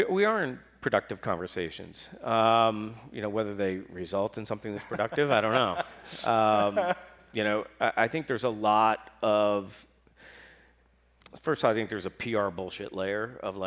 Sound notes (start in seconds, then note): 4.7 laughs